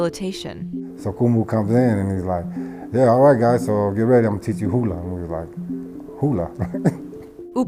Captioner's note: laughs